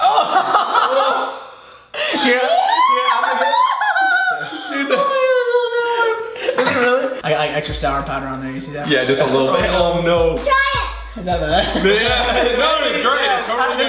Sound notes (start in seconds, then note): 0.0 laughter; 2.2 screams; 6.3 coughs